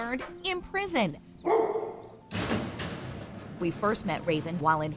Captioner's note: dog bark